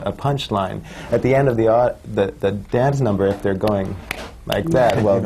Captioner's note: claps unenthusiastically